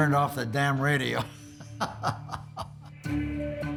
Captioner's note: laughs